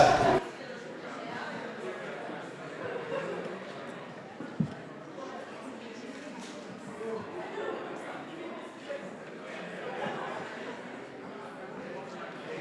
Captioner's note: general chatter